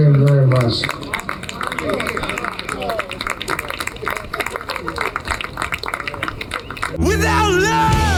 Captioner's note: applause